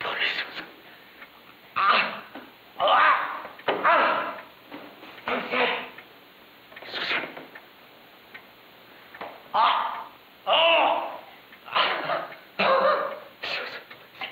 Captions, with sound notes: Okay, Susan. (painful struggling) What's that? Susan. Agh! Oh!